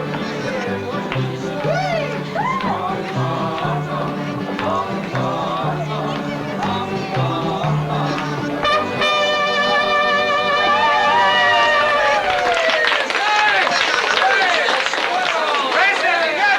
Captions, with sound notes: (guests whooping) (guests cheering) (guests applauding) - Hey! That's swell!